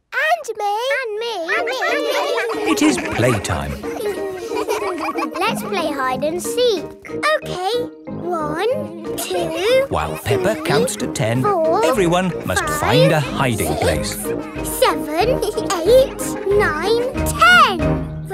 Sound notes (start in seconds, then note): 1.6 all laughing; 4.0 all giggling; 15.9 both giggle